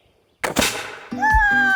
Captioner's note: bang; yells and Laughs